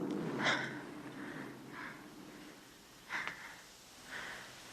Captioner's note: loudly sighing